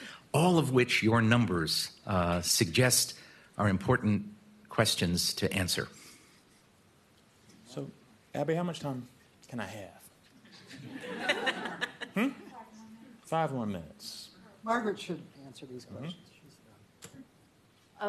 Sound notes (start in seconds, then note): 10.6 laughing